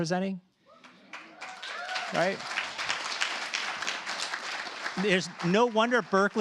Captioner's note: cheers, applause